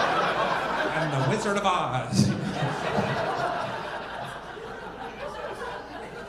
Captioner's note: audience laughing